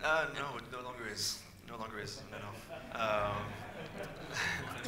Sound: audience laughs

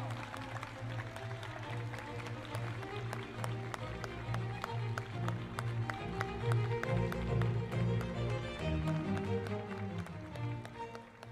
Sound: applause and cheers

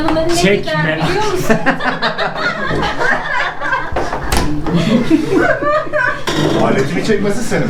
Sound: laughs

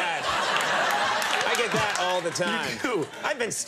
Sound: audience laughing

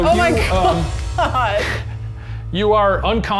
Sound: laughing

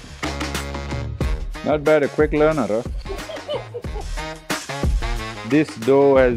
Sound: laughs

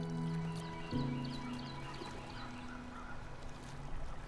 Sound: birds chirping

